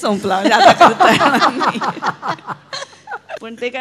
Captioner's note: laughter